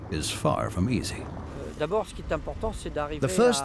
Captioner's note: speaking French